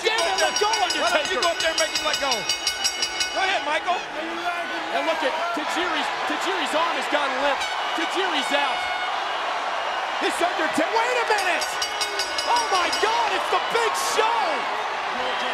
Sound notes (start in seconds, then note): 0.0 bell rings; 11.2 bell rings